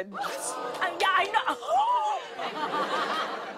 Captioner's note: gasps